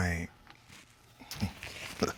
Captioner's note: chuckling